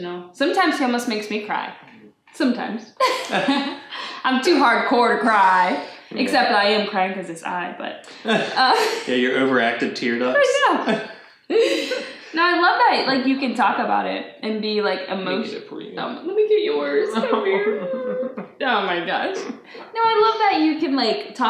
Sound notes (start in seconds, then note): 3.0 both laugh; 8.1 both laugh; 16.8 both pretend cry